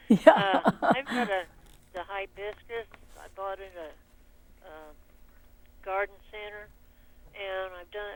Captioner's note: laughing